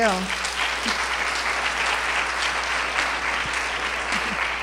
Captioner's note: applause